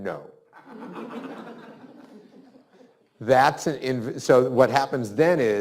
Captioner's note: students laughs